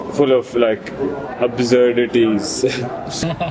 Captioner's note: both laugh